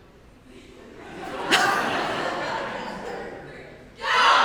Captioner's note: audience laughs